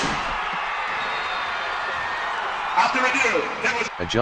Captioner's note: claps; people cheering